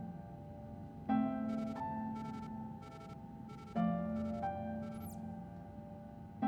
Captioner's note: device beeping